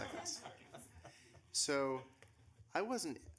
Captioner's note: laughing